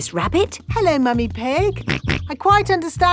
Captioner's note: snorts